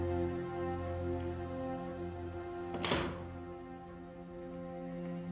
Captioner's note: rustling paper